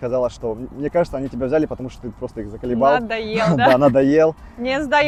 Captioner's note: laughs